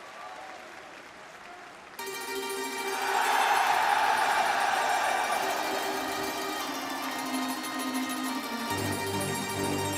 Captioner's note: crowd cheering; crowd chatter